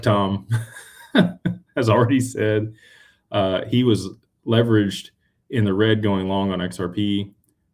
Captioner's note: laughter